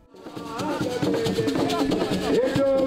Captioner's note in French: chant